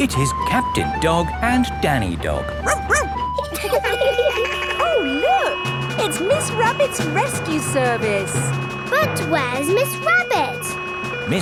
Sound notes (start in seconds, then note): 2.6 barks; 2.6 laughing; 3.7 sirens sounding